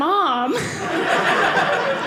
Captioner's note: audience laughing